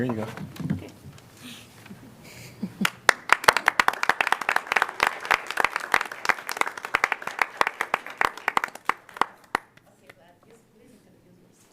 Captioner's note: applause